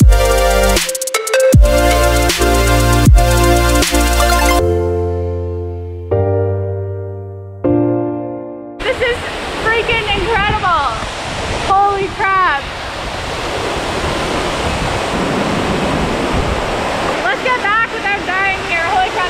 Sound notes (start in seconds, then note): 10.8 water splashing